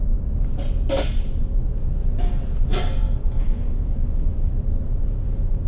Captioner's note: metal chair clanking